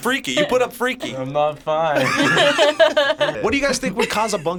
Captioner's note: group laughs